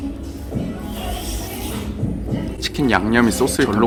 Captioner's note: sound Effects